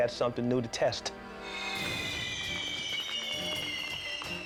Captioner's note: fireworks hissing